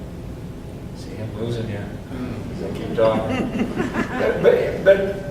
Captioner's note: audience chuckles